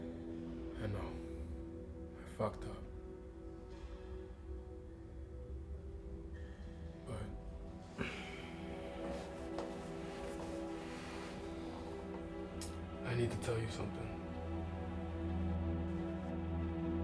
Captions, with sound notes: I know. I fucked up. But, (sighs) I need to tell you something. (suspenseful music)